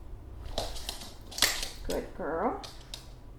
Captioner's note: click-click